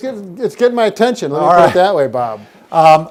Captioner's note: laughs